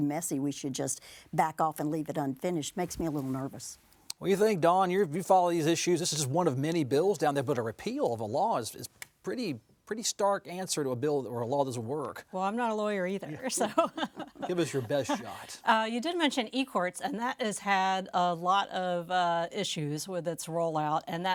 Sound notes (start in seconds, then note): 13.4 laughing